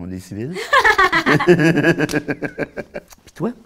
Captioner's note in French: rires